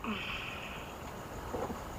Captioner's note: woman groans in pain